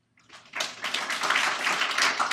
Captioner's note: applause